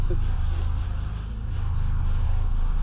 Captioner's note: spits